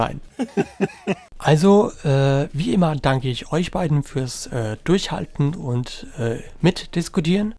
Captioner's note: laugh